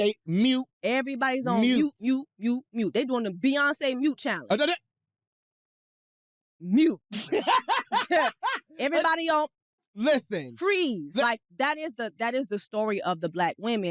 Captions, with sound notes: -Mute. Mute, mute. -...everybody's on mute, mute, mute. They're doing the Beyoncé mute challenge. (MUTTERS) -Mute. -(LAUGHS) -Everybody on... freeze, like... -Listen. That is the story of the Black womens,